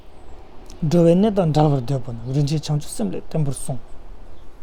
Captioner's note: tibetan